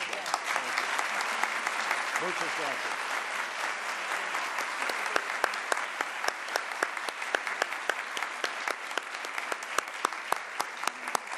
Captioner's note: applause